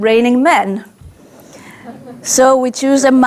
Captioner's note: audience laughs